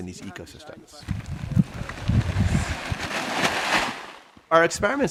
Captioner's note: plastic crinkling